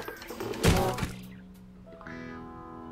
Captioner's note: thud!